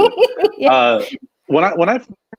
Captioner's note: laughing